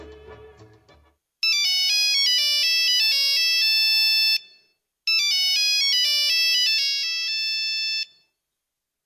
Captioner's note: phone ringing